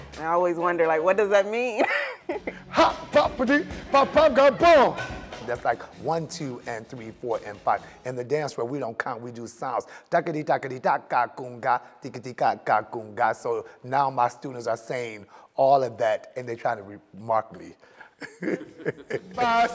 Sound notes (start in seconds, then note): 1.8 laughs; 2.6 making noises to represent beats; 18.0 laughs